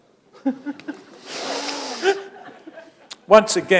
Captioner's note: chuckle